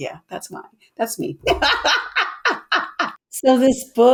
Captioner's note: laughs